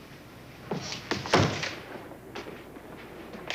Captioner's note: thud